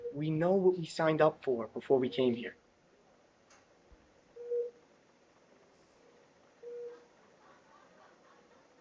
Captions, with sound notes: - We know what we signed up for before we came here. (machine beeping)